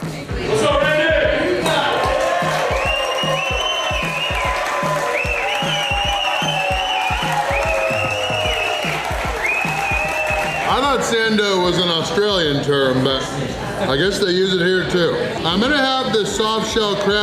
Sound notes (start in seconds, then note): 0.5 crowd; 1.5 crowd clapping and cheering